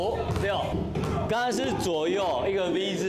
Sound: dribbling

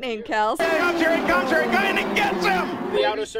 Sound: engines roaring

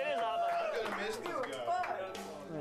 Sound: applause

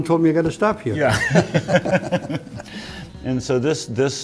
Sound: both laugh

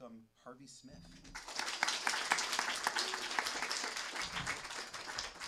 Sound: audience clapping

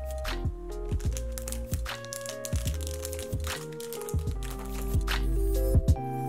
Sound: ASMR crinkling sounds intensifies

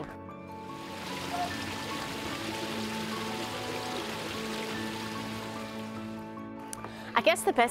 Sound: waterfall Sound

